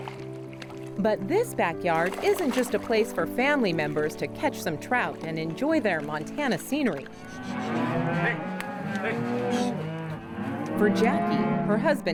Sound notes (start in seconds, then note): 6.7 cattle whining